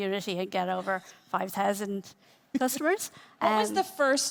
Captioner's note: laughing